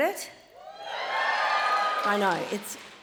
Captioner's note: audience cheering and applauding